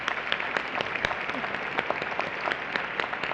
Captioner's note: applause